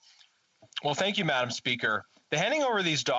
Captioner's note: speaking French